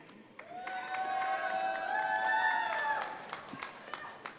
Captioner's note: audience applauds